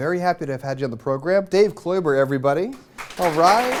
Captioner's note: applause